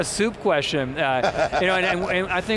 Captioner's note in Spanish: Risas